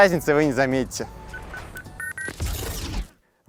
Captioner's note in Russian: Пик, пик, пик, пи-пик